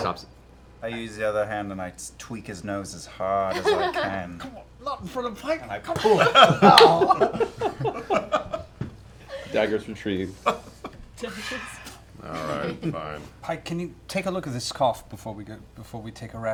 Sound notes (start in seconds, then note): 5.9 laughter